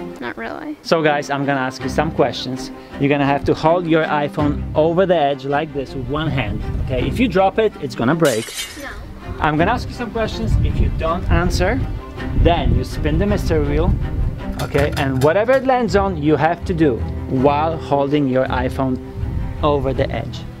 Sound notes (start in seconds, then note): 8.2 glass shatters